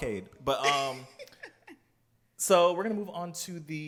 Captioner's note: laughs